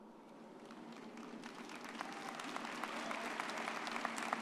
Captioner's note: audience applauds